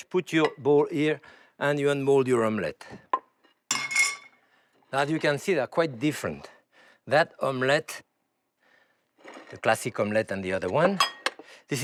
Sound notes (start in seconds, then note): none